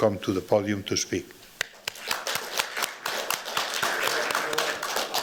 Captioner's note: applause